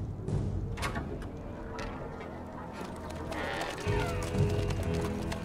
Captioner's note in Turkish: Kapı açılma sesi; Atların ayak sesi